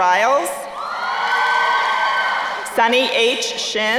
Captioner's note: crowd cheering